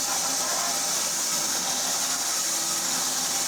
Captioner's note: saw whirring